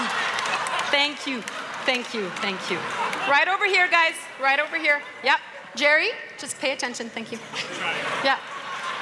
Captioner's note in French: Rires; Rires